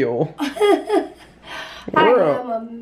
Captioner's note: laughing